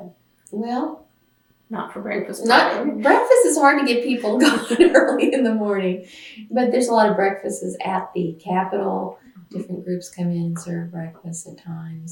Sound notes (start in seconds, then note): 4.1 laughs